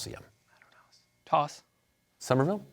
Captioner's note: whispering